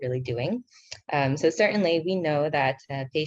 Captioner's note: speaking in foreign language